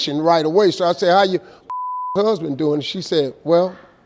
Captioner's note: beep